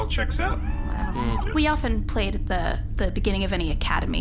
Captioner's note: Pleck and Dar hum thoughtfully